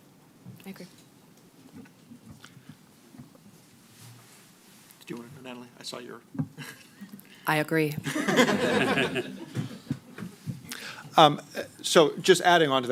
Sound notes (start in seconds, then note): 8.0 laughter